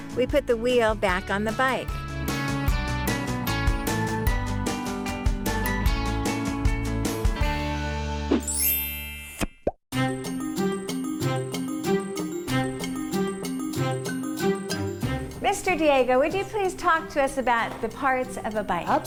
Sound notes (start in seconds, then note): 3.2 playful rock music; 8.5 chimes; 9.3 popping sound